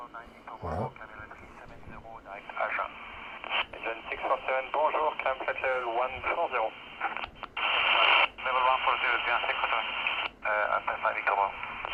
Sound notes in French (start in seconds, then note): 4.9 radio